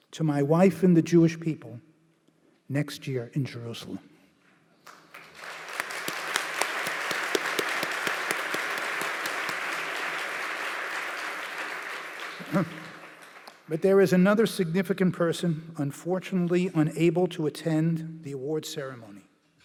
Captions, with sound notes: To my wife and the Jewish people, next year in Jerusalem. (applause). But there was another significant person unfortunately unable to attend the awards ceremony.